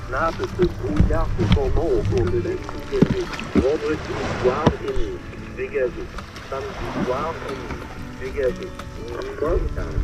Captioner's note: weather announcer in French on the radio